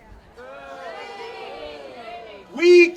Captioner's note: audience cheering